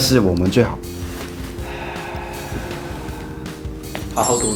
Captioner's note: sighing intensifies